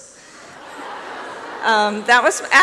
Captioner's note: laughter